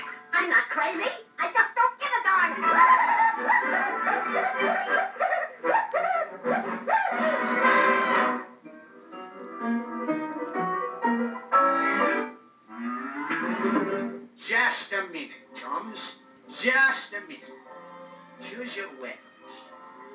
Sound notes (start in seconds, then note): 2.6 whooping